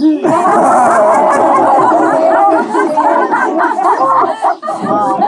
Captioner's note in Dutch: gelach